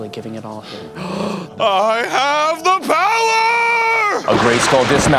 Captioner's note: gasps